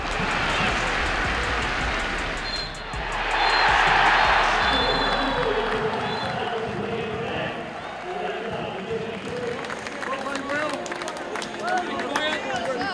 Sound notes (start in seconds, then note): 0.2 crowd cheering; 2.3 whistle blows; 3.3 crowd erupts; 9.3 applause